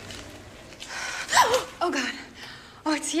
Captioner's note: Carrie gasps